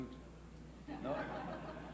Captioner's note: laughs